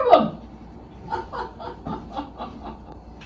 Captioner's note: chuckles